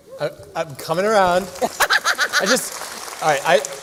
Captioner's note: applause